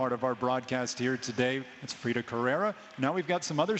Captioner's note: spanish